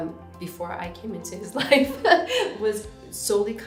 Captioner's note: laughs